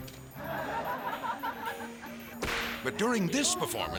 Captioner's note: audience laughing